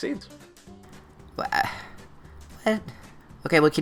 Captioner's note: distressed noises